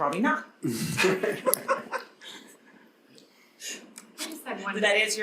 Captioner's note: panelists laughing